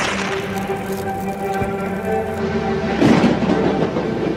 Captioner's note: fire crackling